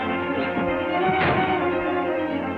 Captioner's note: whacks wall